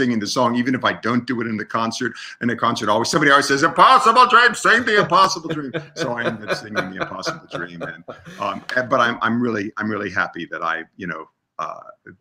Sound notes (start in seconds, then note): 3.6 in a loud voice; 6.5 laughs